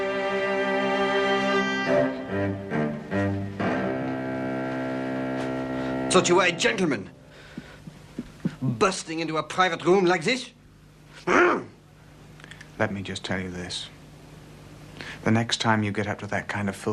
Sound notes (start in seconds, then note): 10.9 growls